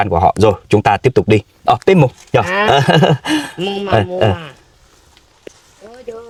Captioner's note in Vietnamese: tiếng cười